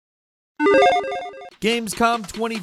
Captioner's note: gaming sound effects